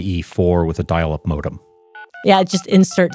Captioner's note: modem chirps